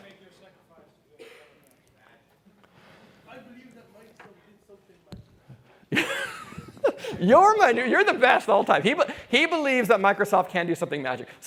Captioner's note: laughter